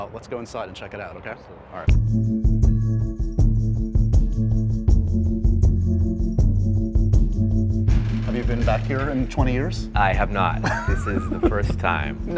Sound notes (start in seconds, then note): 2.4 suspenseful music; 10.6 laughs